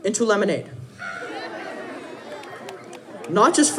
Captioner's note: audience laughing